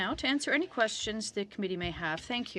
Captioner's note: speaking French